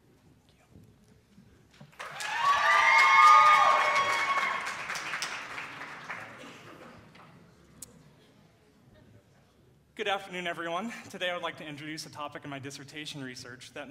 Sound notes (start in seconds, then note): 1.9 audience applauds and hoots